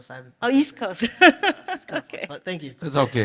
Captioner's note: laughs